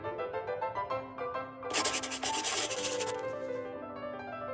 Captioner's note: marker rustling